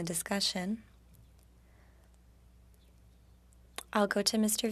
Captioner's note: speaking French